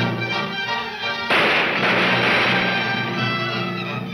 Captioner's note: gunshots banging